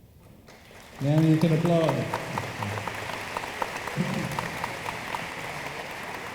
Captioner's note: room applauds